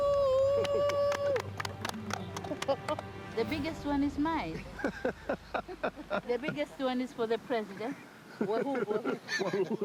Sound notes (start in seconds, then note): 0.0 cheering and clapping; 4.6 Peter laughing